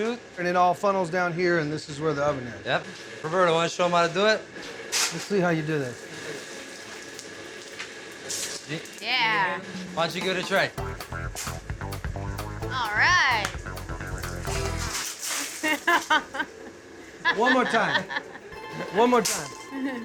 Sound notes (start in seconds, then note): 4.9 coal clattering; 11.4 shoveling; 13.3 coals clattering; 15.5 laughter